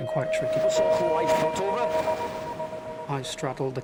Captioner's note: intense music; water drowns out speaker